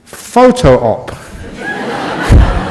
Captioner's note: laughter from the audience